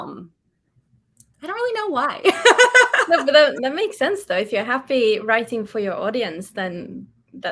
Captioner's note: laughs